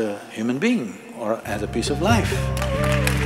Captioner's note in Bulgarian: аплодисменти